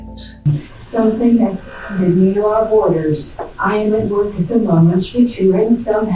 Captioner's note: static; on Radio